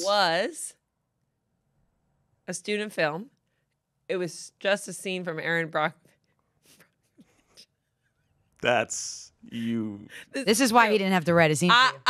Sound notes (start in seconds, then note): 7.8 laughs